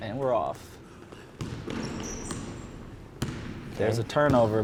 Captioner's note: ball dribbling